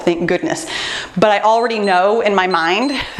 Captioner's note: timer beeps